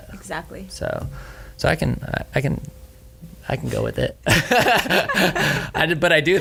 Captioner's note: laughs